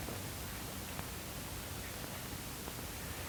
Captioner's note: none